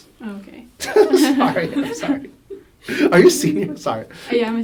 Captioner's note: laughs